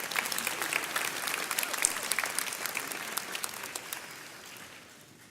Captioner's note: audience applauds